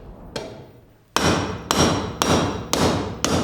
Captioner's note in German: Metallische Laute